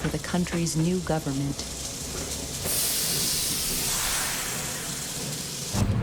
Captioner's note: steam hisses